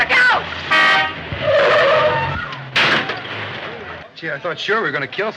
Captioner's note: car beeping